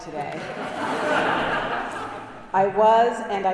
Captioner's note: congregation laughing